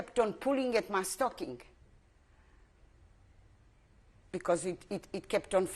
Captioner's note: pauses for 3 seconds